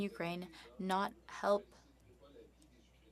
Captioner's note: speaking French